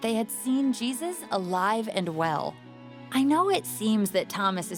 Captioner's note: none